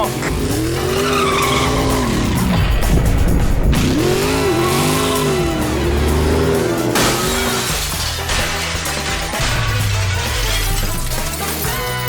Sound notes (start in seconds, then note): 6.9 CRASH! Glass explodes in dramatic 70s fashion